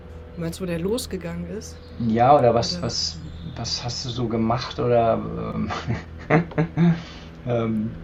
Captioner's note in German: gelächter